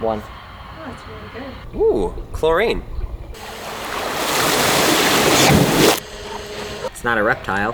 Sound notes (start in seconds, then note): 3.3 water splashing in reverse